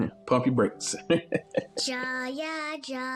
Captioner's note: laughs